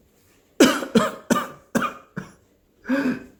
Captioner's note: coughs